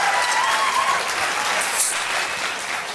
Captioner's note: cheers and applause; fizzing